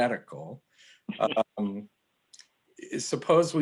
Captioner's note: laughs